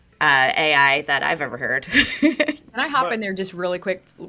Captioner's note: laughs